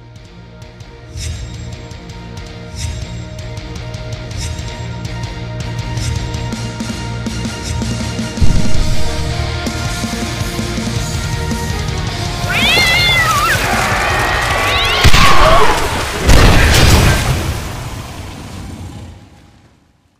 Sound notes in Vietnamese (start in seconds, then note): 15.0 Bùm